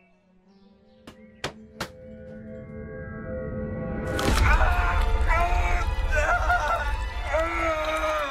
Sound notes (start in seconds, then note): 3.4 tense music; 4.7 Paul grunting